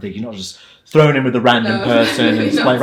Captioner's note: laughs